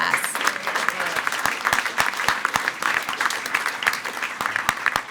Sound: everyone applauding

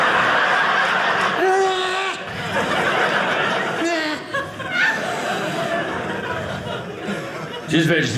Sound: audience laughing

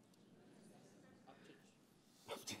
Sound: light audience chatter; voiceover

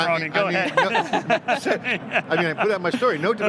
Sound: laughs

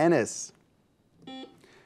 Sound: buzzer beeps

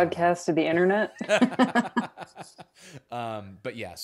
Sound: both laughing

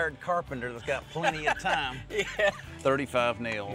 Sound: laughs

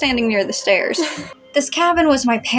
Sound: chuckle

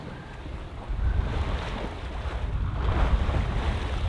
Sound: waves lapping

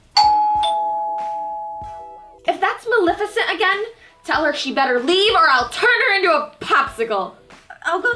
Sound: doorbell

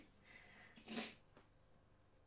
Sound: sniffles

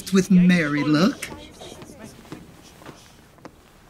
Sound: footsteps approaching; chatter ceases

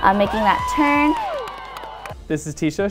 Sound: cheering and clapping

